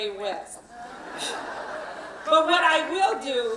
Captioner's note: laughing